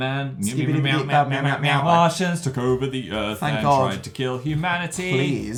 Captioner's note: still sing-song